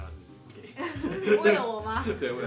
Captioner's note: laugh